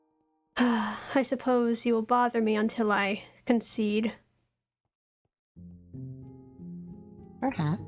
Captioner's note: sighs